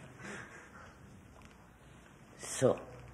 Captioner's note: laughter